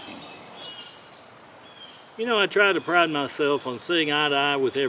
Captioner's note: none